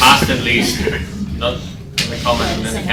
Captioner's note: uncomfortable muttering and scoffing